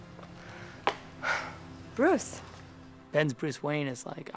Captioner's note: sighs